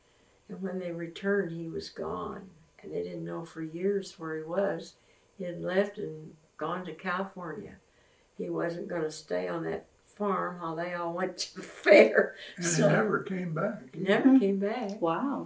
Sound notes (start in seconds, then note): 12.4 laughs